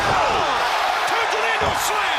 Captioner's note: crowd cheering